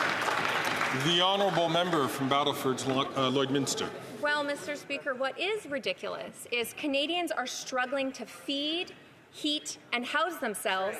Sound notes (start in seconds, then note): 2.9 applause